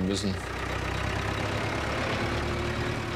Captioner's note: engine noise